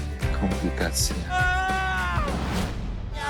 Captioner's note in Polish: mężczyzna krzyczy; jęczy